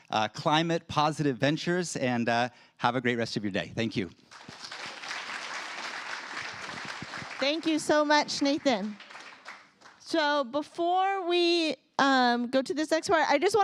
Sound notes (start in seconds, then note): 4.2 applause